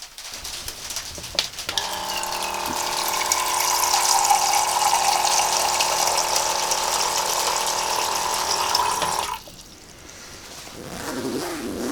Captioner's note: pump whirring, water pouring